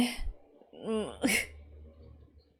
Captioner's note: laughs